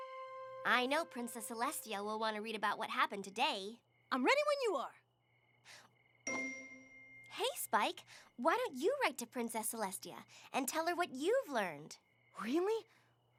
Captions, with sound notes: I KNOW PRINCESS CELESTIA WILL WANT TO READ ABOUT WHAT HAPPENED TODAY. I'M READY WHEN YOU ARE. [ DING! ] HEY, SPIKE, WHY DON'T YOU WRITE TO PRINCESS CELESTIA AND TELL HER WHAT YOU'VE LEARNED?